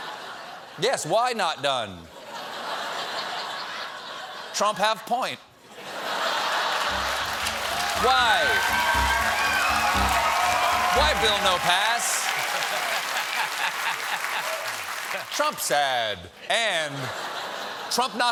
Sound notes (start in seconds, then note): 1.6 laughter; 6.8 cheers and applause; 6.9 piano riff; 12.6 laughter